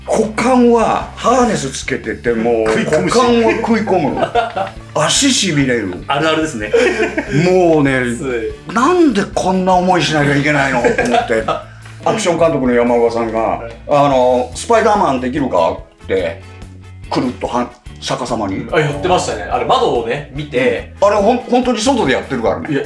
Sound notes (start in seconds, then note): 6.5 laughs